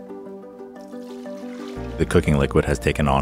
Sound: liquid pouring

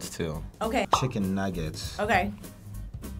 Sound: bubble popping

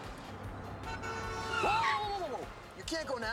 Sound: horn honks

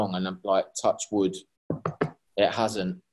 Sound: tapping wood

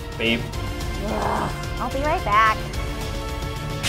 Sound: sighs

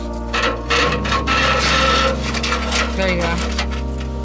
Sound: clanging

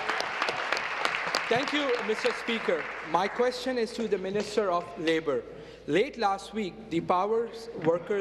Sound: applause

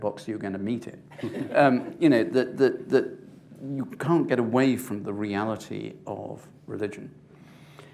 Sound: laughter

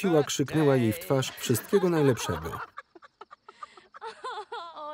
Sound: laughter

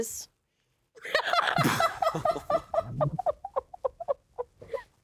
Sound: both laughing

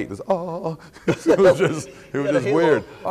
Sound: laughing

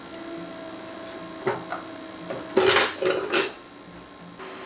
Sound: utensils banging

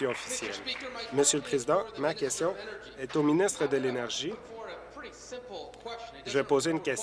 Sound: applause

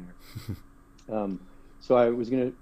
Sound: laugh

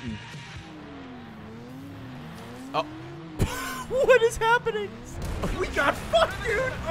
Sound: laughs

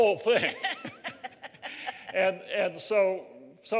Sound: laughter

